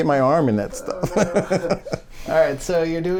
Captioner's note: laughs